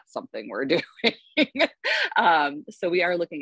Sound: laughs

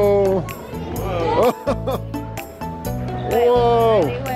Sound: laughs

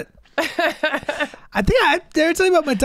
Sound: Megan laughing

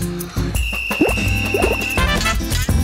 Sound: whistle blowing

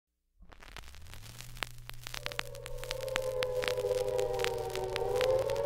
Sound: air Raid siren in background throughout

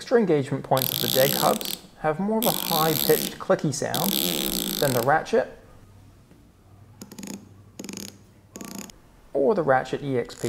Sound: click Ratchet

